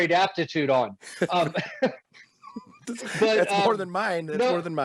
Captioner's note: laughing